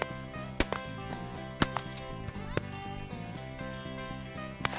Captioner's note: multiple gunshots